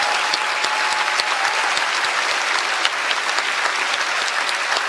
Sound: applause

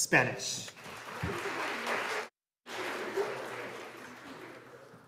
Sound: audience applauding

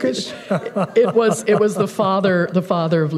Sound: laughter

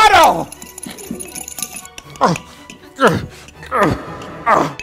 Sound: laugh

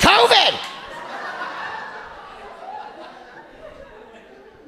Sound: audience laughing

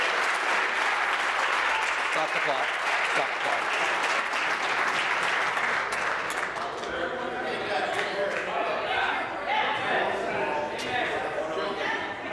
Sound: applause

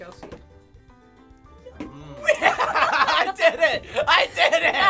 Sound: laughs happily

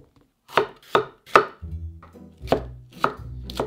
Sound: chopping

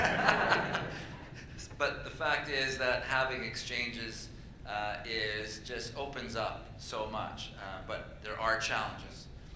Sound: laughter

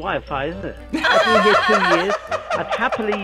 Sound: both laugh

